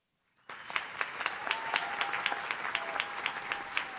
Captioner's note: audience claps